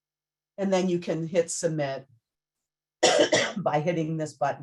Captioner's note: coughs